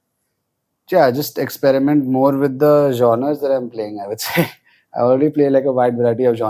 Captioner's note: laughs